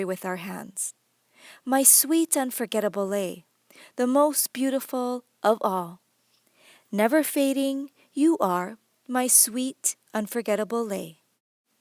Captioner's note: moderator reading English lyrics